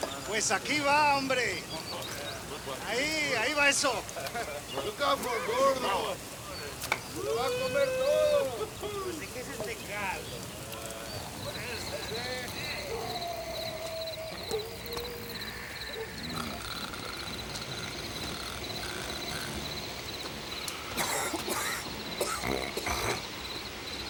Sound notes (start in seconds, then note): 0.3 Crecencio speaks Spanish; 4.8 gang members chatter; 13.0 crickets chirp; 15.2 gang members snore; 20.9 gang member coughs